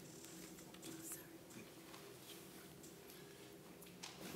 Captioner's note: whispers